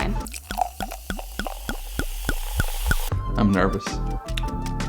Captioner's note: wine pouring